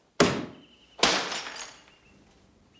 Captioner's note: glass shatters